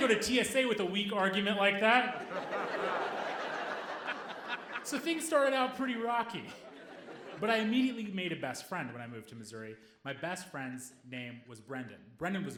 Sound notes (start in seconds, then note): 2.0 audience laughing